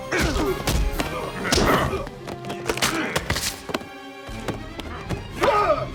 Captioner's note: dramatic music; grunting